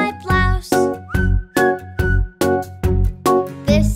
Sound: whistling

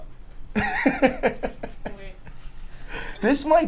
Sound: laughs

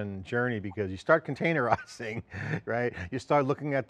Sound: laughs

